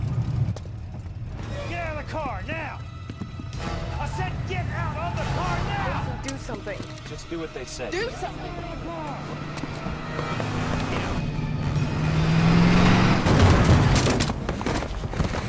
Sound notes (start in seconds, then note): 11.6 dramatic music; 11.6 engine revving; 13.2 man thudding; 15.3 tires squealing